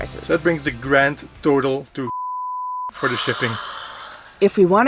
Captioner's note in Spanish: bip